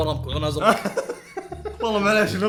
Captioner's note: laughs